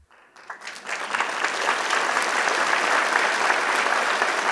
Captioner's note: applause